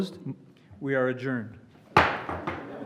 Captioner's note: gavel